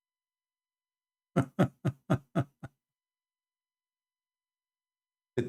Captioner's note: Ketawa